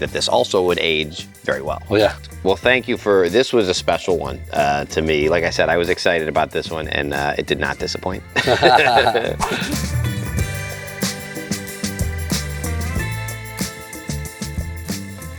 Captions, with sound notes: that this also would age very well. Well thank you for, this was a special one to me. Like I said, I was excited about this one and it did not disappoint. (both chuckling) (upbeat music)